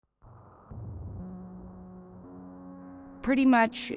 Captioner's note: dramatic sound